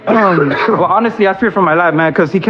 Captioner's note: cououghs